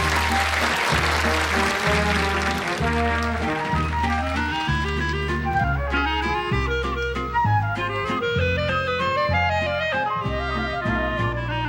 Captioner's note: applause